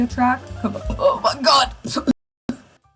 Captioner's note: chokes for some reason